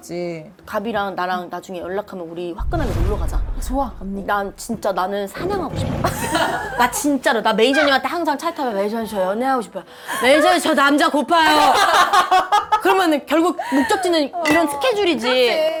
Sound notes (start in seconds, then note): 4.5 aggressive girl; 8.3 bellowing